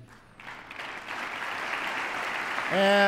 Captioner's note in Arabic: تصفيق